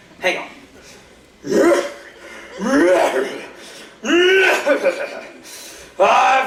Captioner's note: cough cough